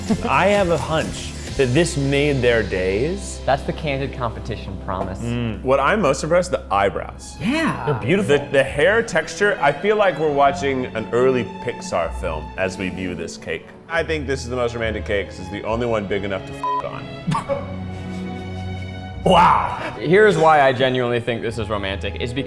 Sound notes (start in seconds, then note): 17.2 laughs